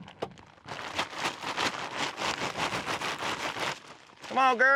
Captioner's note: crinkling bag